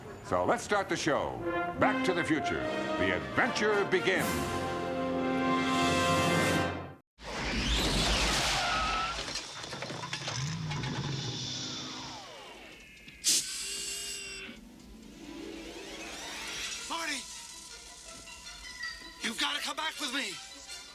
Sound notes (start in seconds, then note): 7.3 tires screeching; 10.2 engine revs